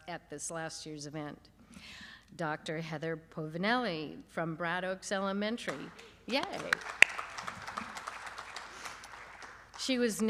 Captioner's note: applause